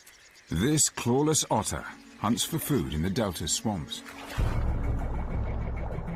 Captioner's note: water gurgling; dramatic music